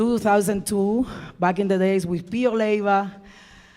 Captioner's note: speaking in Spanish